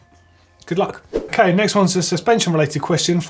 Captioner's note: swoosh